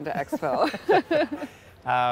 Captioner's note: both laughing